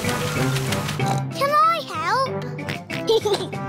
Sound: oinks and giggles; oinks

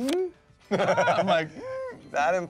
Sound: Michael laughs

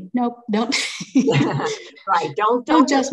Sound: both laughing

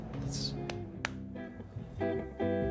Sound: slaps hands; jazz music

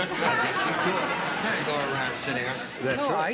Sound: laughter

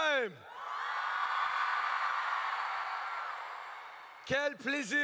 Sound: crowd cheers

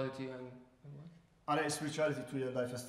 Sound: speaking in farsi

